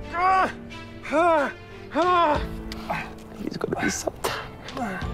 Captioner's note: grunts